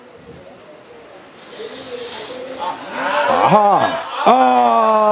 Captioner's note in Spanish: Público animando